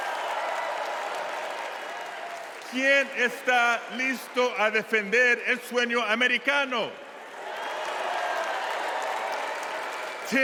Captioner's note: cheers and applause